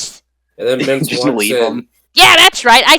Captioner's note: chuckles